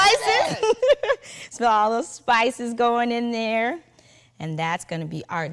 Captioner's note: chuckling